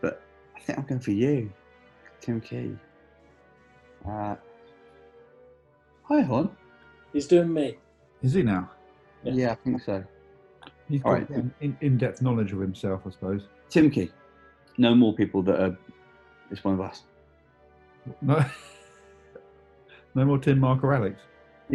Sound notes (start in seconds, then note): 18.2 laughs